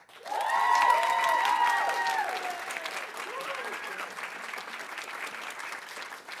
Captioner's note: audience applauding; audience cheering